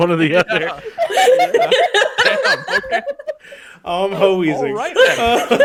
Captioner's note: laughter